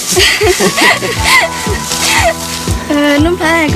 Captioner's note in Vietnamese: tiếng cười